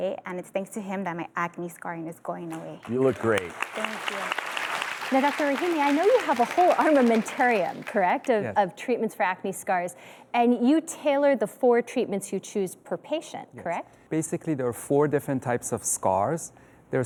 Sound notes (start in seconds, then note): 4.7 audience applauds